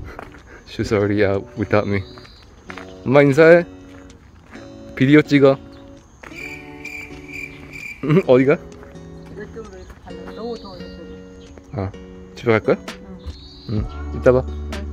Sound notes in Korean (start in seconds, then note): 2.9 한국어 대화